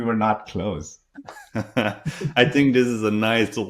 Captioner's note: both laughing